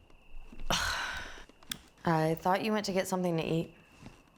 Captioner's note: scoffs